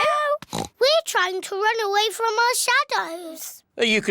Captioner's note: oinks